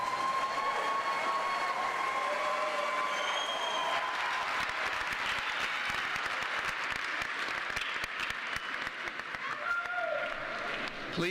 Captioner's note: applause